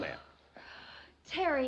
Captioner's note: exhales